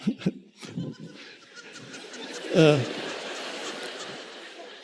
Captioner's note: audience laughing